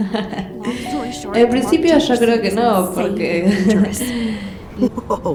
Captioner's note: sigh